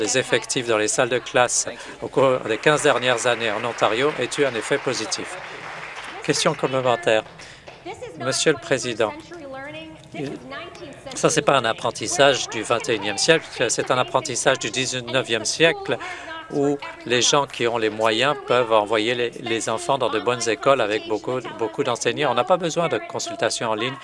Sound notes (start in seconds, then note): 6.0 applause